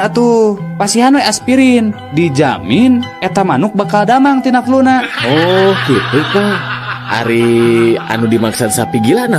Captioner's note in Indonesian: tertawa